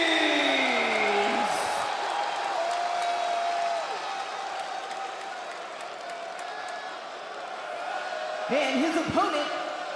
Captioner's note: crowd cheers